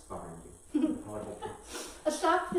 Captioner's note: laughs